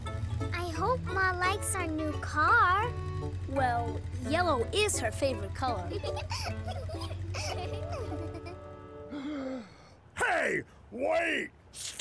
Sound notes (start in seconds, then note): 5.9 giggles; 9.1 gasps